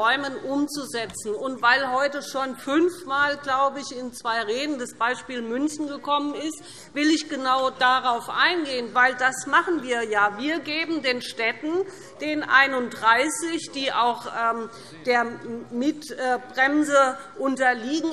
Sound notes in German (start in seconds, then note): none